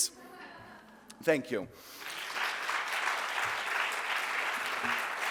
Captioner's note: audience applauds